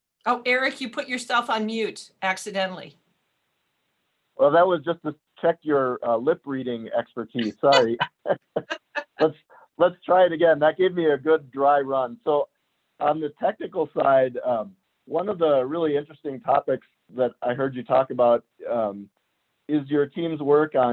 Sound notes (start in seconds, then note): 7.4 laughs